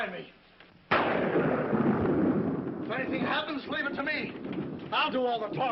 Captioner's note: thunder